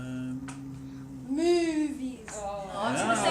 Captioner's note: groans